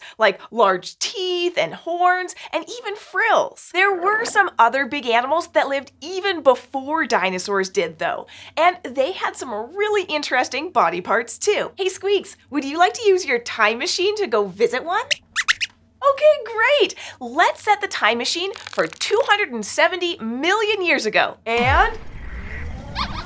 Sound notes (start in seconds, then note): 15.1 squeaks squeaks